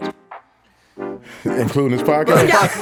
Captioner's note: all laughing